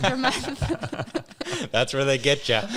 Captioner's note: all laughing